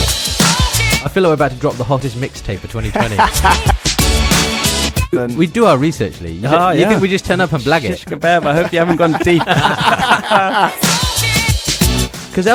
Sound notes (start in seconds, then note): 2.8 laugh; 11.6 all laugh